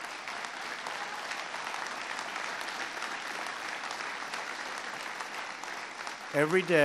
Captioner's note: applause